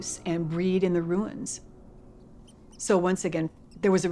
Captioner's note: rat squeaking